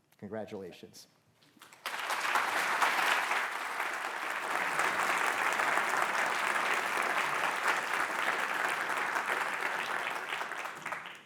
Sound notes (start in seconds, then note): 1.6 applause